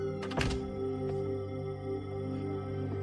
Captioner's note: door opens, closes